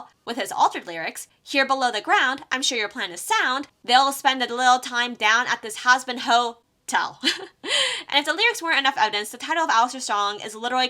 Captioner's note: tel *laughs